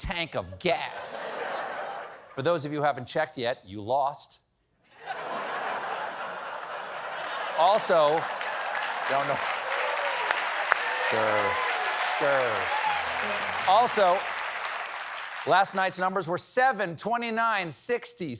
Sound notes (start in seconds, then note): 4.9 laughter; 6.5 applause